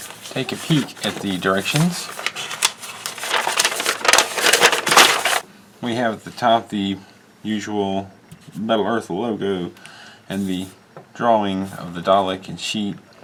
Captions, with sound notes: and take a peek at the directions. [paper rustling] We have at the top the usual Metal Earth logo and the drawing of the Dalek and sheet.